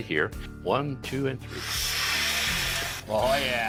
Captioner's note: machine whirring